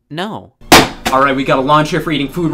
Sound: hand slaps

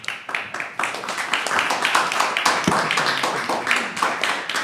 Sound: audience applauds

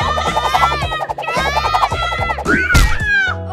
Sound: all yelling

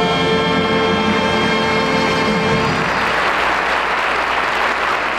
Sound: audience applauding

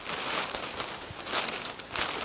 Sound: bag sounds

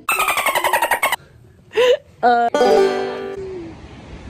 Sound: dolphin noises

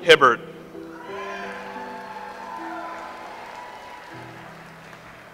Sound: audience applauds

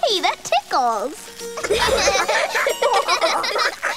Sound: laughing

